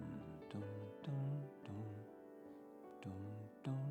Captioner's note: humming